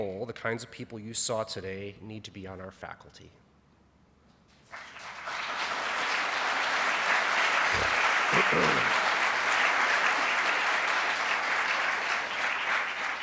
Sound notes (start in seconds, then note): 4.7 clapping